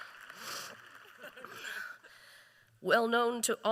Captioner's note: applause